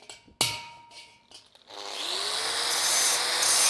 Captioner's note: machine whirring